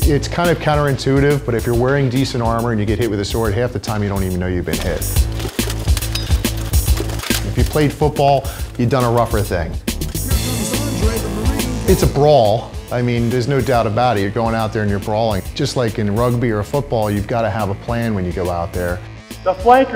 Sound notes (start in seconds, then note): 5.0 clanking